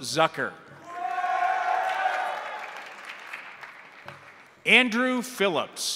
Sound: crowd cheering; crowd applauding

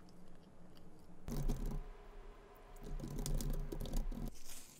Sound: patting

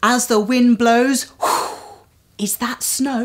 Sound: blow

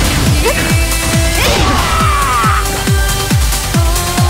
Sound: crit scream

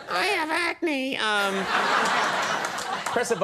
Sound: audience laughing

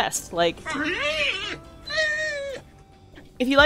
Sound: Joey vocalising

